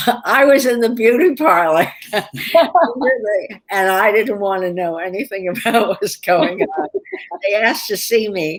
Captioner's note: laughter